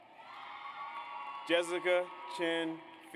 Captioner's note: audience applauds